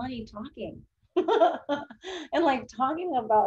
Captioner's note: laughs